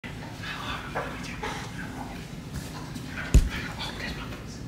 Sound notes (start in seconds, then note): 0.6 whispering to dog